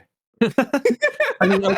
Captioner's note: both laughing